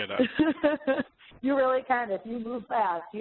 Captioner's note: laughs